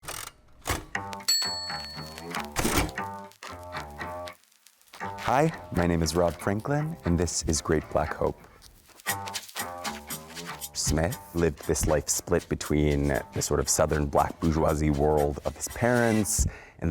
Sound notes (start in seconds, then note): 1.2 typewriter chiming; 1.7 soft music; 9.0 soft music